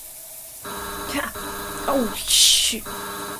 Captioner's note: SFX: Doorbell buzzes